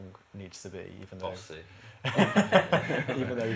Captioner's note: laughter